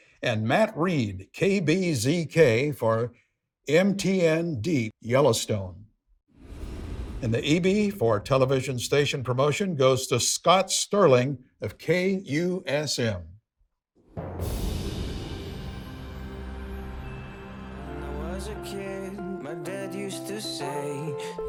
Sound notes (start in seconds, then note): 14.2 soft music; 14.6 wind whooshing